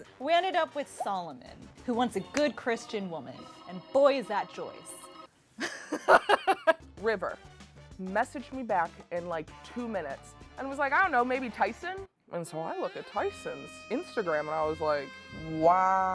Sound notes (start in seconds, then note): 5.6 laughing; 15.0 romantic jazz music